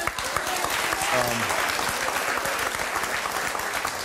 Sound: audience claps

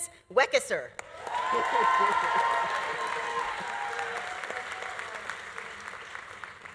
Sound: audience applauding; audience cheering

